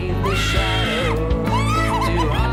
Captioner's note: screaming